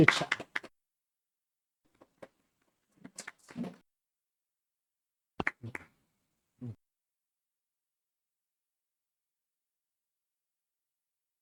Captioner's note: claps